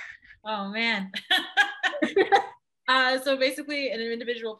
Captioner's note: laughs